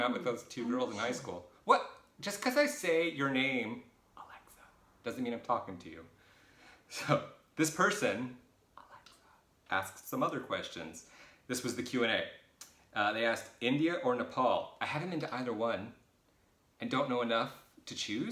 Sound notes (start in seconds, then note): 4.2 whispered; 8.7 whispered